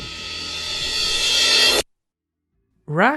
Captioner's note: reverse cymbal